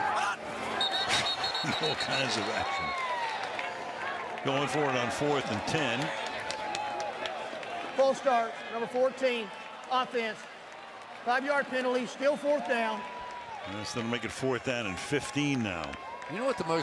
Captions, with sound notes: [whistle] All kinds of action. Going for it on fourth and 10. False start, number 14, offense. 5-yard penalty. Still fourth down. That's going to make it fourth down and 15 now.